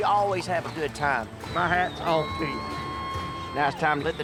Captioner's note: crowd cheering